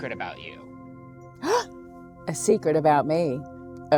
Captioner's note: gasps